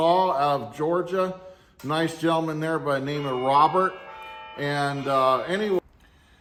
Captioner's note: phone ringing